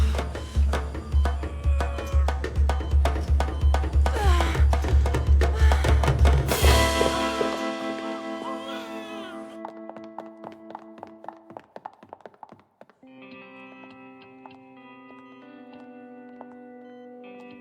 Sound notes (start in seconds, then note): 1.7 grunting; 5.2 drums beating; 8.2 baby crying